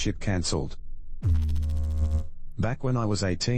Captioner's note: electrical noise